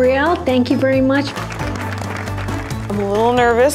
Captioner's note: applause